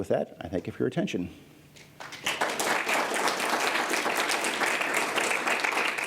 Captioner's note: applause